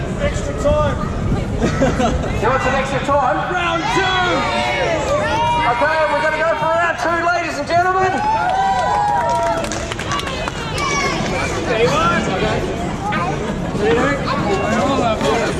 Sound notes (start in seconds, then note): 0.0 crowd member yells "extra time!; 3.6 crowd cheers